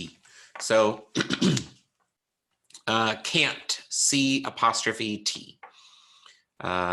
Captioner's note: clears throat